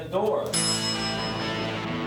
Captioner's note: elevator bell dings; heavy rock music